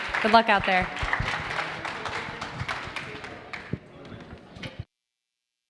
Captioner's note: audience applauding